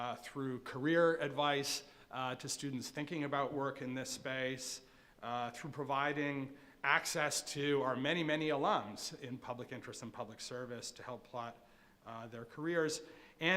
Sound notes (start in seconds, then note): none